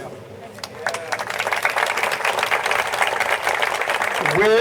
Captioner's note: audience applauding